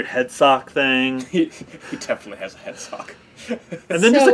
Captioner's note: laugh